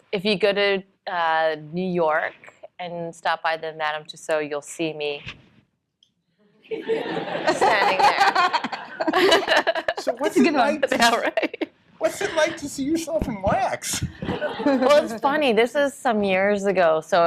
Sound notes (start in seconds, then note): 6.7 laughter